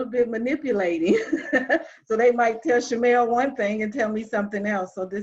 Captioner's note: laughs